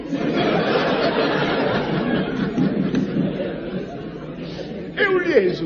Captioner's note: laughs